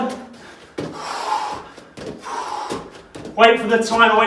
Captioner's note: exhales sharply